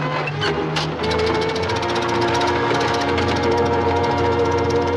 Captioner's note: engine sputtering